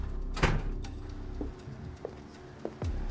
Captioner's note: door bangs; dramatic music